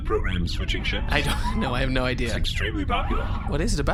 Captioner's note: laughing